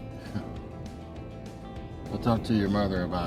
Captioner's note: laughing